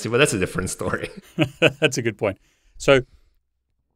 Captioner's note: laughs